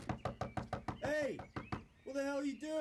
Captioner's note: Rob knocking